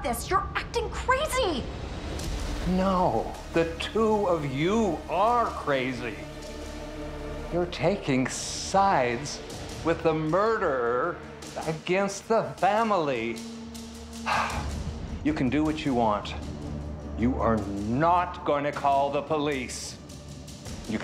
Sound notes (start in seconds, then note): 14.2 sighs